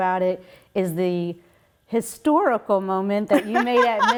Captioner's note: laughing